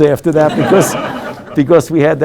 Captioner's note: group laughing